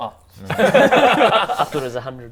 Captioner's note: squishy laughs